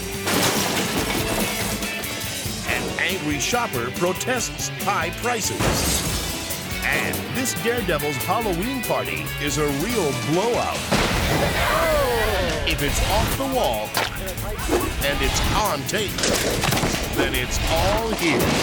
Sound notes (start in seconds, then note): 0.0 groceries clattering; 5.5 glass shatters; 10.8 explosive booms; 16.5 cyclist thuds